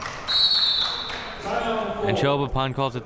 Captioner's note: whistle blows